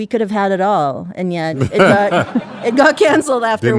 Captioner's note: laughing